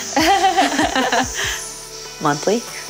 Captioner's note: laughing; air hissing